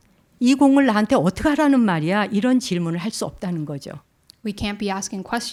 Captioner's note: speaking in Korean